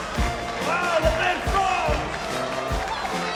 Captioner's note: audience cheering and applauding